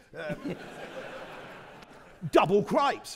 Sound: audience laughing

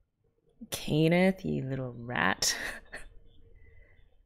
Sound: laughs

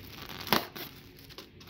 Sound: knife punctures packing airbags

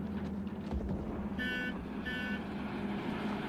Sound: horn honks

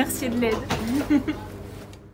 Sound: laugh

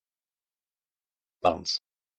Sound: fast Pronunciation

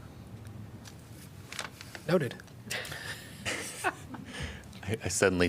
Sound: laughter

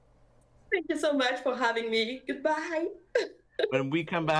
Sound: giggles

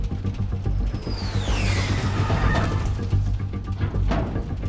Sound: plane roaring; plane shaking

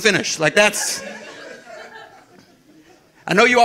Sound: audience laughing

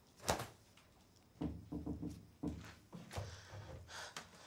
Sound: door knocking

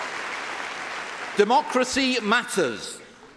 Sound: applause

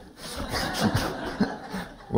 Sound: laughter

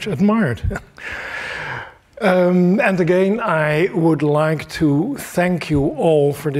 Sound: laughs

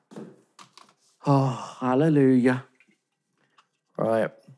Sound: sighs

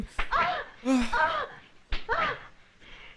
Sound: sighs

